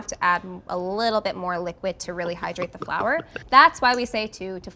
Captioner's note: gulping sound